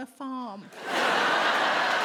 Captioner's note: audience laughs